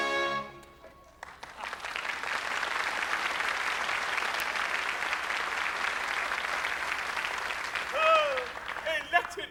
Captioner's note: applause